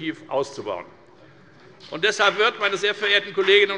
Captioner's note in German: Beifall bei der FDP